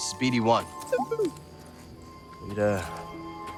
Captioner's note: bd-1 chirps